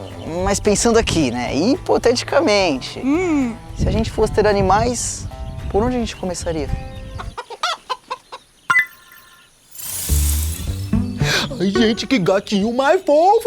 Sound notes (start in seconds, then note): 7.4 cackling; 8.1 click